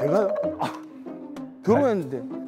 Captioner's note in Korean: 푸흡